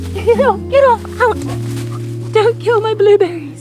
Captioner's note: grass rustling